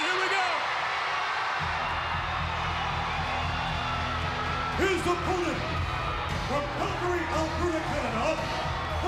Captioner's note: applause